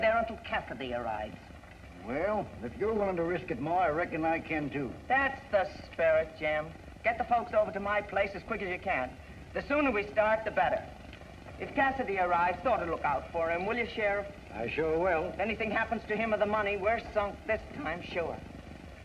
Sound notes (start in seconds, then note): none